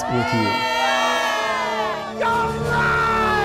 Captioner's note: cheering